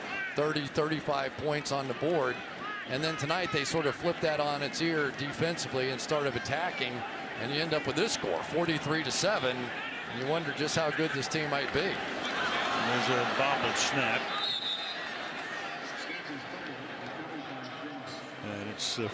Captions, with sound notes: are going to put 30, 35 points on the board. And then tonight, they sort of flip that on its ear defensively and started attacking. And you end up with this score, 43 to 7. And you wonder just how good this team might be. And there's a bobble snap. [whistle] [pa announcement]